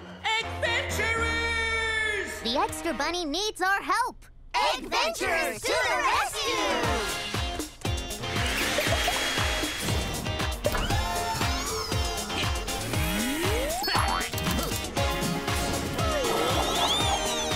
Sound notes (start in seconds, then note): 7.3 upbeat music; 10.8 whirring